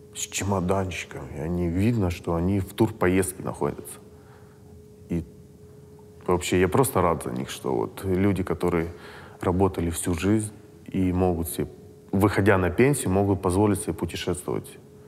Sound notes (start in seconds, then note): none